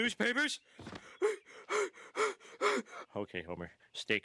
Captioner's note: hyperventilating